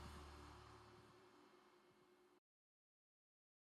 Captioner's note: birds chirping